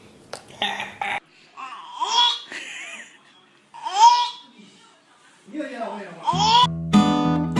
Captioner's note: gagging noise